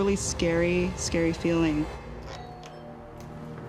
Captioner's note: doorbell rings